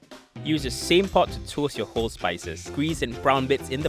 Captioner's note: voiceover